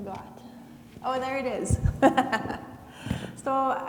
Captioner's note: laughs